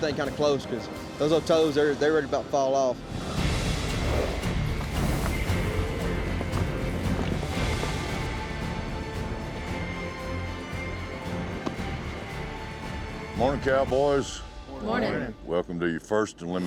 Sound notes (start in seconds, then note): 11.7 claps